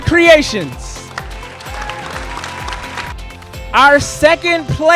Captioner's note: audience applauding and cheering